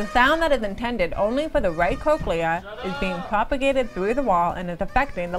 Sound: muffled kids screaming

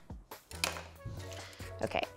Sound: knife clunking on counter

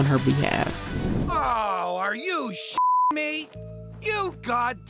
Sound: beep

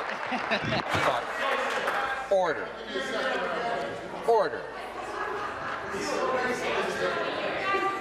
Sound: applause

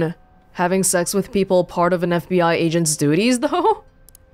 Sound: chuckles

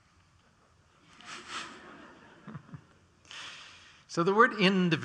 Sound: laughter

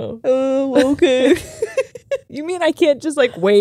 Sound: both laugh

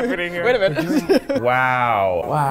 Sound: laughing

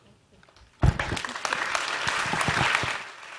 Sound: applause

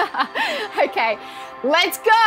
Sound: laughing

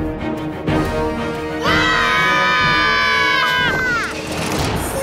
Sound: screaming

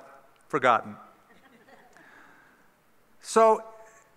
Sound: laughter

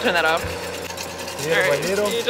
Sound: whisking eggs

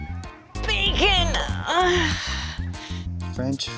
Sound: groaning

